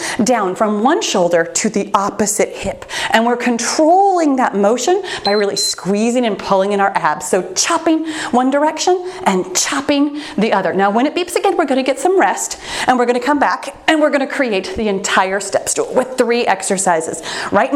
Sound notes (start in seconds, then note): 5.2 timer beeps